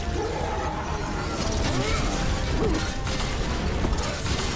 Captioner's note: monster growling